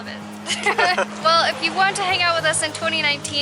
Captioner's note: laughter